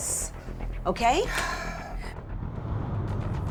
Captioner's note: sighs